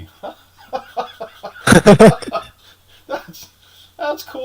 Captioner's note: both laughing